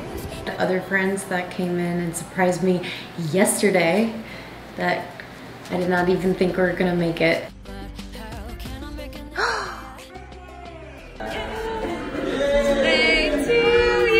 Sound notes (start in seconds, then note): 9.4 gasps